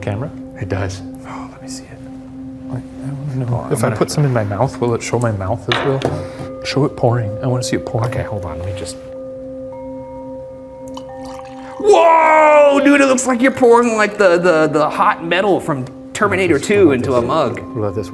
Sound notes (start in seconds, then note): 9.8 gentle chiming music; 10.9 coffee splashing